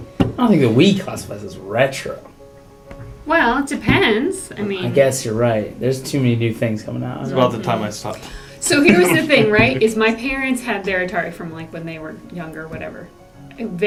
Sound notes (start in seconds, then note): 8.6 laugh